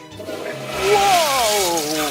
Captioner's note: flushing sounds